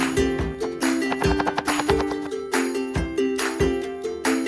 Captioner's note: chop chop chop